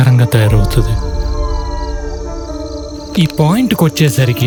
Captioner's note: jackals howling